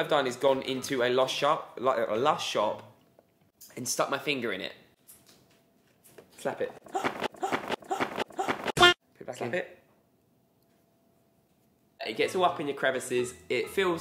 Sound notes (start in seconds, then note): 6.9 gasps